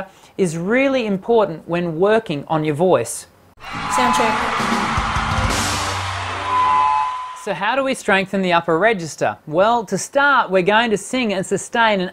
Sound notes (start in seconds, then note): 3.6 audience applauding and cheering